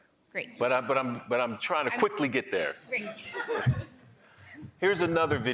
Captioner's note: laughing